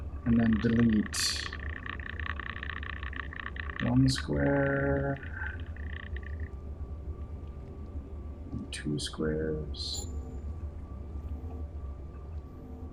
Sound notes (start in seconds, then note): none